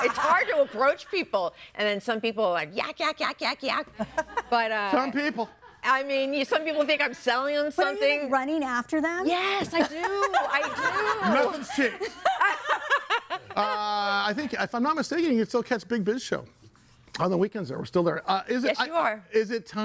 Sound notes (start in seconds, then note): 12.2 laughing